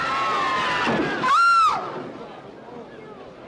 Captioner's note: crowd screams; Mary screams; loud bang